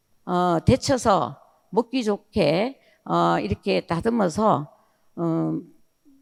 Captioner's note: speaking in foreign language